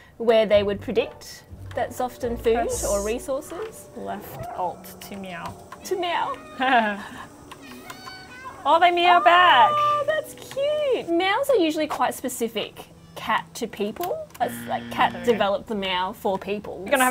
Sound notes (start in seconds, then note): 6.6 chuckles; 7.6 cats meowing